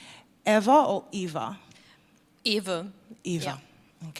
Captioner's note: german pronuntiation